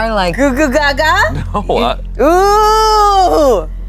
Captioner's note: chuckles